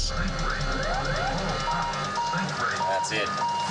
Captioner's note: alarms going off